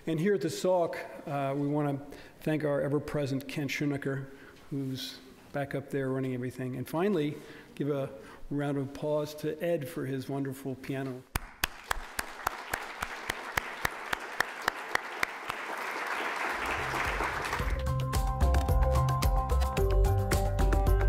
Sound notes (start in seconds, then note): 11.3 applause; 18.3 upbeat music